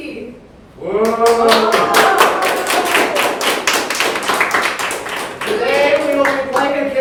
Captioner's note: cheers; everyone applauds